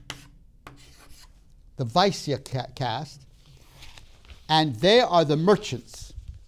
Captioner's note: chalk tapping